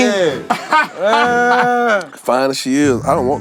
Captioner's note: laughing